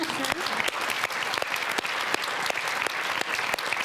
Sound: audience claps

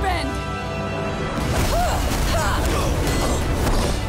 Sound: grunting

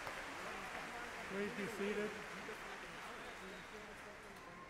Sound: voiceover

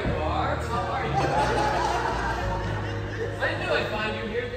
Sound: laugter

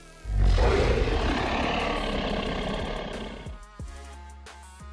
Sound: dinosaur roars; upbeat music

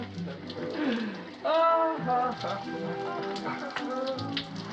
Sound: chuckling; sighing

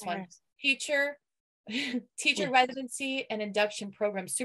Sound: chuckles

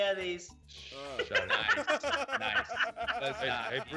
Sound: laugh

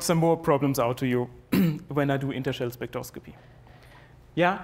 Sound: cough

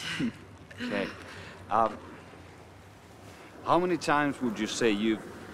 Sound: murmuring

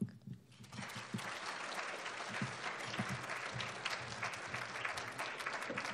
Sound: applauding

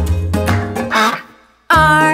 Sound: duck quacks

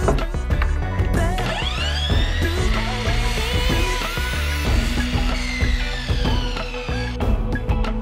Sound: miter saw whirring

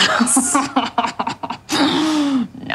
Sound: chuckles knowingly

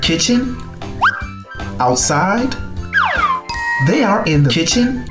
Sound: bell dinging

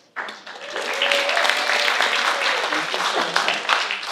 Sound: applause

